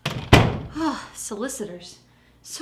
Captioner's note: sighs